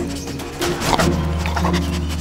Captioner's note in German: Schnüffeln